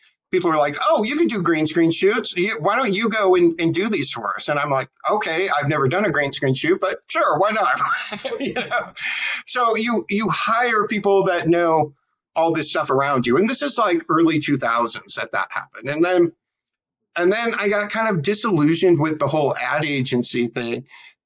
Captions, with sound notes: people were like, you can do green screen shoots, why don't you go and do these for us? And I'm like, okay, I've never done a green screen shoot, but sure, why not? [LAUGH] So you hire people that know all this stuff around you, and this is like early 2000s that that happened. And then I got kind of disillusioned with the whole ad agency thing.